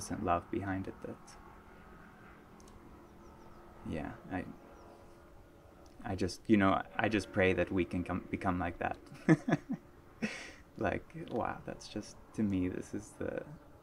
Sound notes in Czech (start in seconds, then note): 9.1 smích